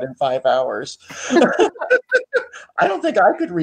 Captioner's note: laughs